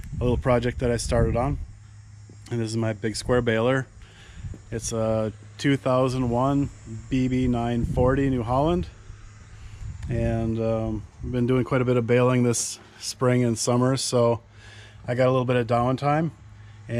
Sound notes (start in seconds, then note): none